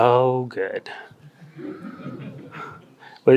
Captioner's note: audience laughs